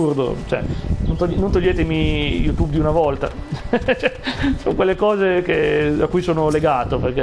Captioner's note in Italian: risate